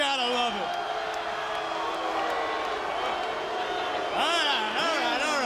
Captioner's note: applause